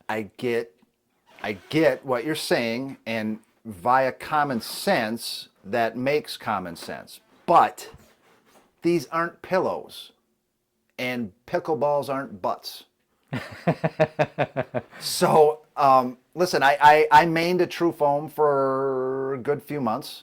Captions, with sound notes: I get what you're saying and via common sense that makes common sense. But these aren't pillows and pickle balls aren't butts. (laughing) So listen, I mained a tru- foam for a good few months